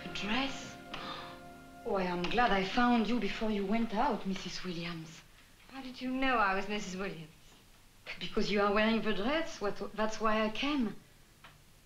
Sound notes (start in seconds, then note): 0.9 gasps